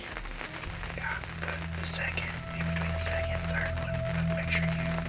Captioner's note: whispering